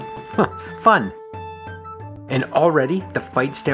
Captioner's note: chuckles